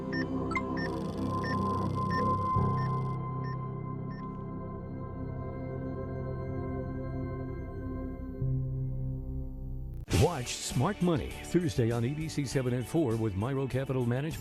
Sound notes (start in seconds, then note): 0.0 EKG machine beeping; 0.1 electronic chime; 4.1 EKG machine beeping